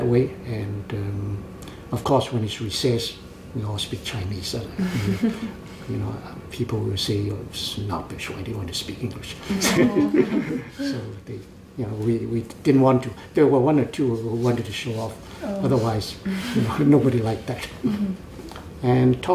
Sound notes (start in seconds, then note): 9.5 laughs